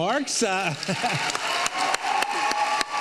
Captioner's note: audience cheers